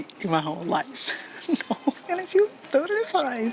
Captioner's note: laughs